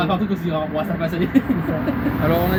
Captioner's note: laugh